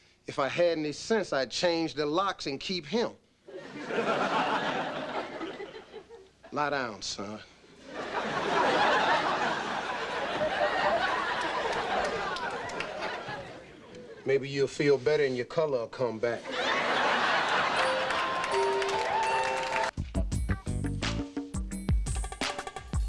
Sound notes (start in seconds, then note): 3.5 audience laughing; 7.8 audience laughing; 16.4 audience laughing; 17.6 whimsical music; 20.4 funky music